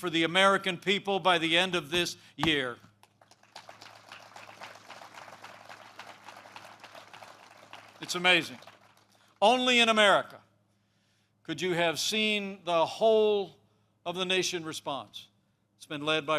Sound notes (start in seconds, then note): 3.0 applause